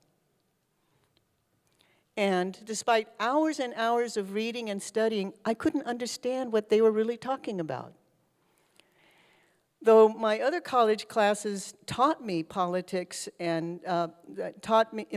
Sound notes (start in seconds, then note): none